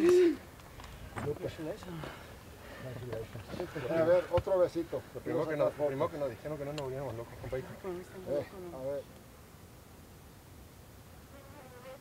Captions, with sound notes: Congratulations. (Spanish)